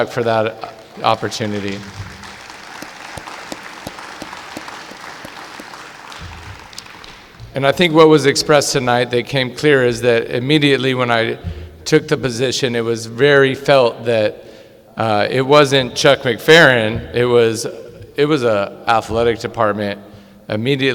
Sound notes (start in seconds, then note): 0.6 clapping